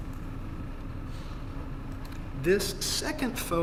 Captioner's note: none